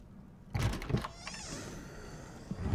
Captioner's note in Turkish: Kapı Gıcırtısı Sesi